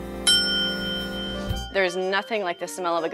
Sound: bell ringing

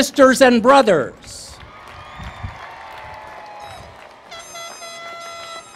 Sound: applause

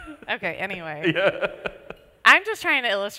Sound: laughs

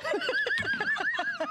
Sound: laughter

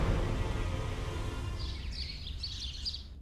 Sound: birds chirping

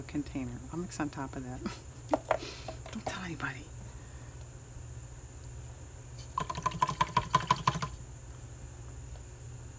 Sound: laughs

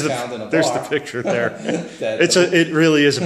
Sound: voiceover

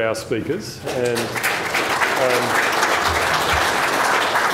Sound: applause

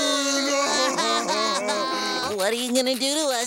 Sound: crying

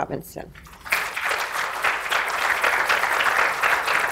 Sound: applause

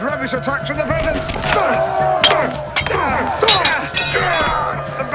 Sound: grunting

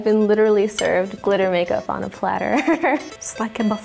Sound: laughs

